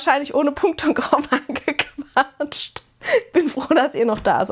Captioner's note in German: gelächter